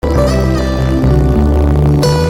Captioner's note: fuzzy sounding audio